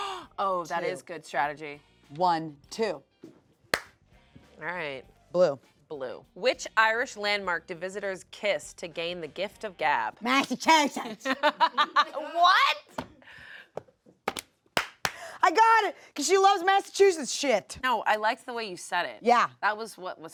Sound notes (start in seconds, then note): 3.7 claps hands; 11.0 laughs